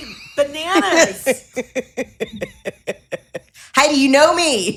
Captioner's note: laughing